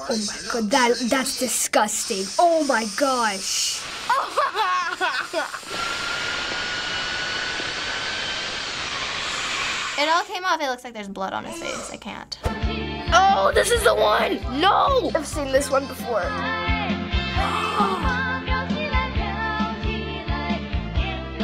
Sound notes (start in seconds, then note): 2.0 drill whirs; 4.0 laughing; 5.0 drill whirring; 17.4 gasps